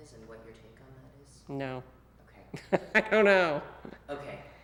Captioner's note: laughs